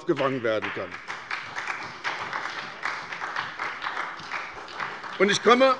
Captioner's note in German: Beifall bei der SPD